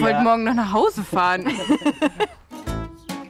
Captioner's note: laughter; slow music